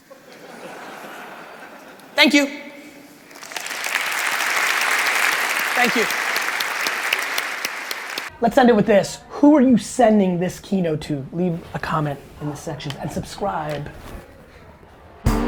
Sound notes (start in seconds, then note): 0.0 crowd laughing; 3.2 crowd applauding